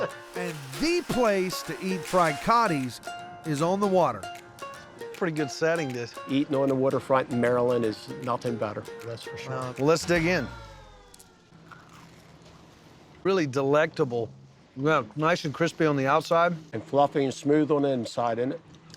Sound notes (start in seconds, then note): 11.6 crunching sound